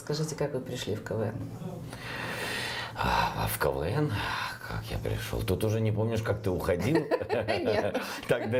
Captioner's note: sighs; both laugh